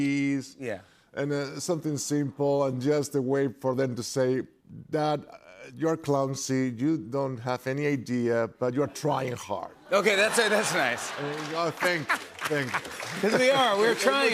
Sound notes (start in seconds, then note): 9.9 laughter